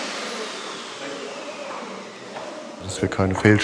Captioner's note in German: Das Surren klingt aus